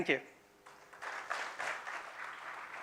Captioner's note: applause